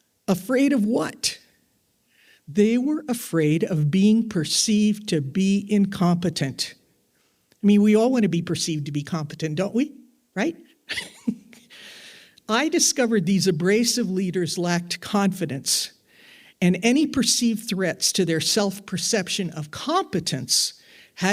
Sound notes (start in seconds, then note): 10.9 laughs